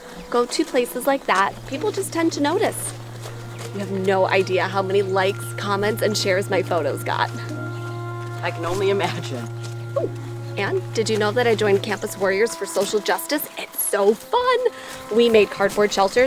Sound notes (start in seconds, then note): 7.4 chuckles